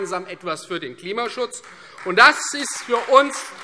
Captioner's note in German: Beifall Freie Demokraten